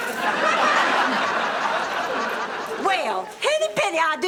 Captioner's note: audience laughing